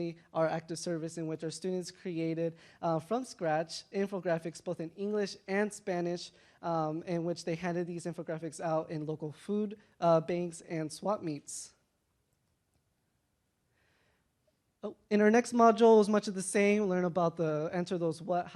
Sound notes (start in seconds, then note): none